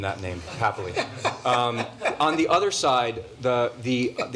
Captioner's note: laughter